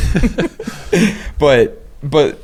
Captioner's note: laughing